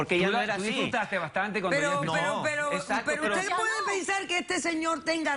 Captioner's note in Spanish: Hablan al unísono